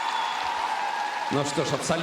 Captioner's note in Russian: аплодисменты; ликование